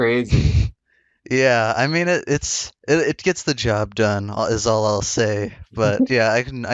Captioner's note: laughs